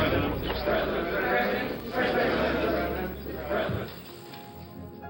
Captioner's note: reporters calling "Mr. President..."